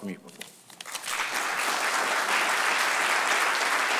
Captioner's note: applause